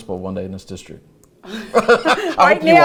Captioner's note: both laugh